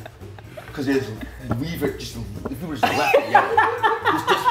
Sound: laugh

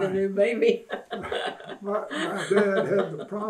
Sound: laughter

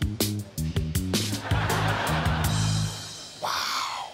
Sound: laughter

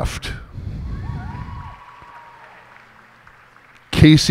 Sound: cheers and applause

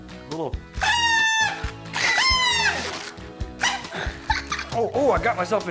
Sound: blowing horns; laughing

